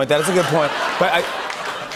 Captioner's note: laughter